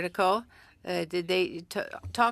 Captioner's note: speaking french